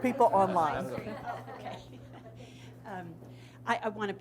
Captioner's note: chuckles